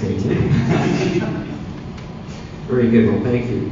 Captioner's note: laughing